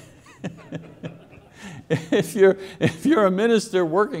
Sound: laughs

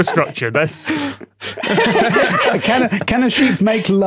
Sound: group laughing

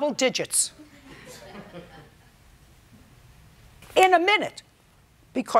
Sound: light laughter

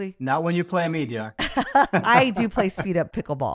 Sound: both laughing

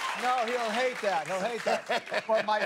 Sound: cheers and applause

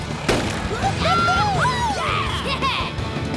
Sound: cheering

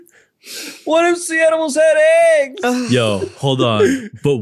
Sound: laughs

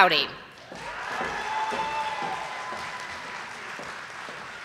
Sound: audience applauding

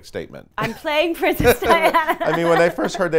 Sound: laughs loudly

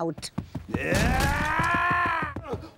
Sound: yelling

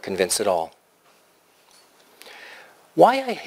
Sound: pause

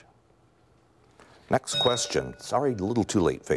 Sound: bell rings

